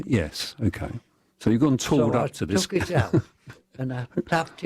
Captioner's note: laughter